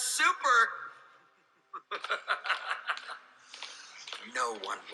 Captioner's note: evil laugh